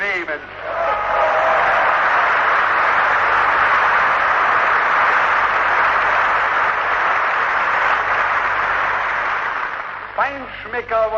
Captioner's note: applause